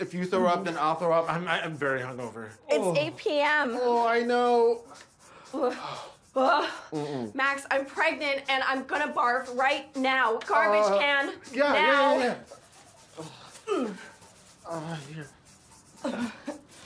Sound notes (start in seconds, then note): 5.8 Maggie groans; 5.8 Max exhales